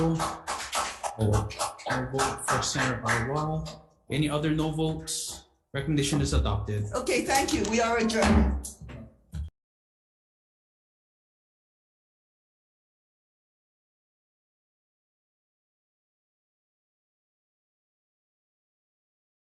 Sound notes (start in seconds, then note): 0.0 attendees clapping; 9.7 gavel thumps